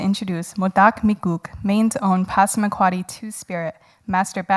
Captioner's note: speaking in foreign language